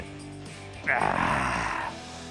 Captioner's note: grunts happily